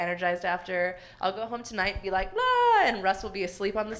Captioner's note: yells enthusiastically